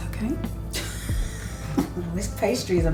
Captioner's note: laugh